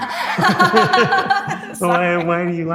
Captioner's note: both laughs